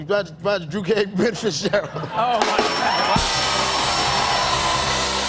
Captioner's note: cheers and applause